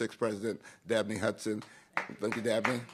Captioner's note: applause